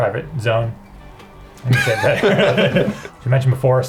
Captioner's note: laughs